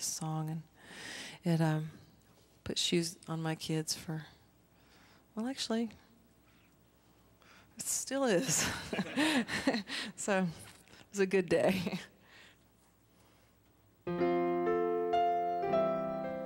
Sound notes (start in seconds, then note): 8.4 laughter; 14.0 plays keyboard